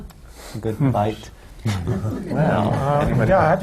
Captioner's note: laughter